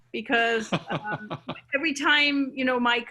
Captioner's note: laughing